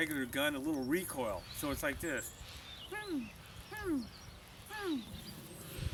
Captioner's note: imitating a robot